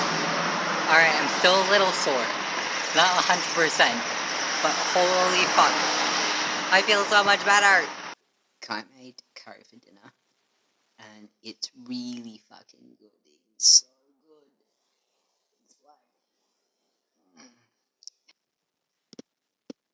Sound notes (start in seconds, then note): 16.0 noise of appreciation